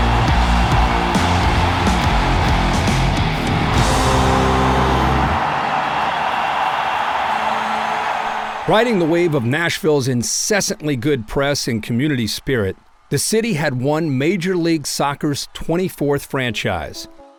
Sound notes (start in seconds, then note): 3.3 music fades; 5.5 cheers fade